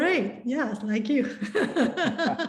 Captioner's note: laughs